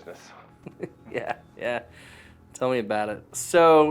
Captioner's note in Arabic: يضحك